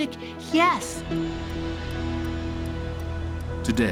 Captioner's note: turn signal ticking